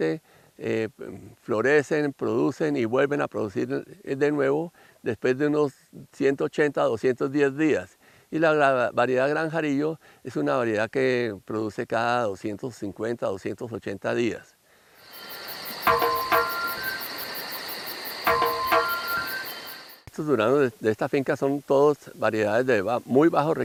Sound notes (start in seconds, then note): 14.7 nature sounds